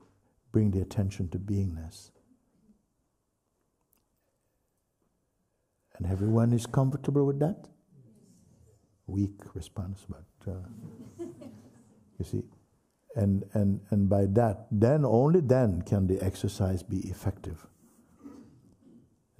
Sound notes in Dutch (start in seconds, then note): 7.9 paar stemmen